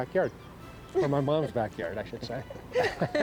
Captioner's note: woman laughs